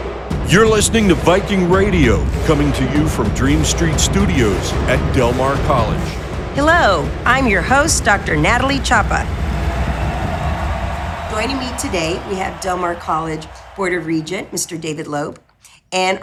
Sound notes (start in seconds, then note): 9.2 crowd applauding and cheering